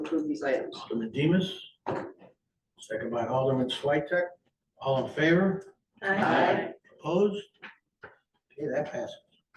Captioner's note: in Unison